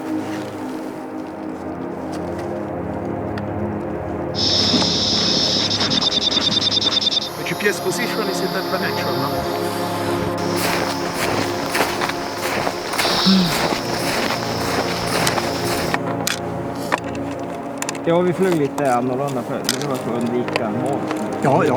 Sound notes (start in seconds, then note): 0.1 gentle music continues; 4.4 machine beeps; 7.9 speaks Italian; 10.2 feet clacks